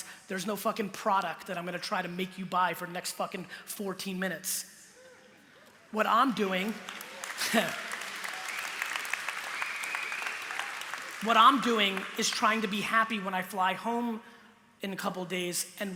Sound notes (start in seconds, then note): 6.4 applause; 7.3 laughs